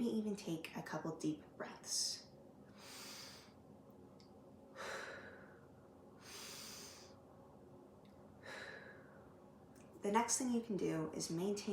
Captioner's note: breathing